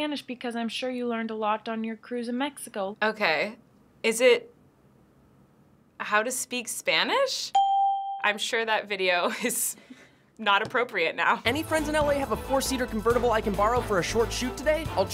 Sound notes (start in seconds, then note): 7.5 ding